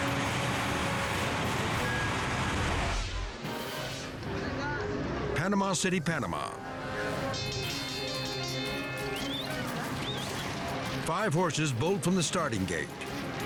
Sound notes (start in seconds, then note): 0.0 fire roaring; 3.1 screen whooshing; 7.4 bells ringing; 8.6 dramatic music